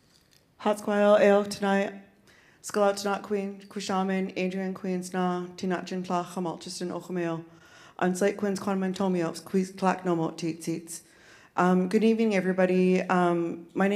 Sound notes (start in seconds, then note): 0.7 speaking in Sk1wx1wu7mesh